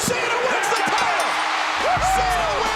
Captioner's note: hands thudding; bell ringing